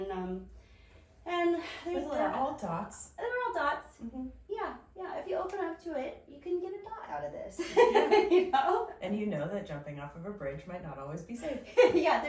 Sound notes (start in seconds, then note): 7.9 laughs